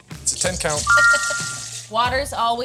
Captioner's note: text chiming brightly; laughing